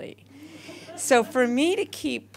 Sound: audience laughter

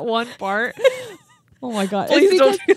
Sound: chuckling

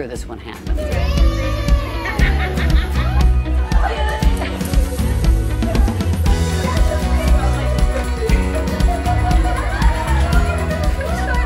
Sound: cheering

